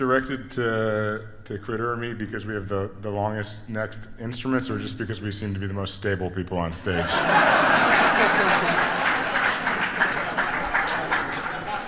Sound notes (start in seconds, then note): 6.9 audience laughs; 8.6 audience clapping